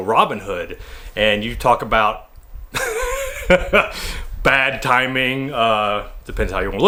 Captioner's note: laughs